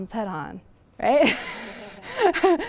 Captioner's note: laughter